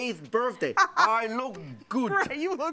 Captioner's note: laughter